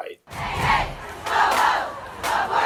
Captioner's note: chanting in unison